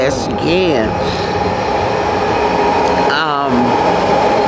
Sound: train roaring past

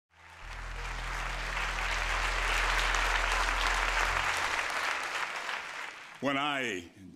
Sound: applause

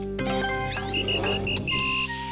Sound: whistling

